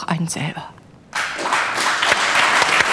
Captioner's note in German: Applaus